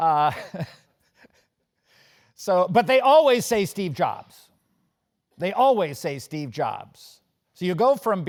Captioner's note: laugh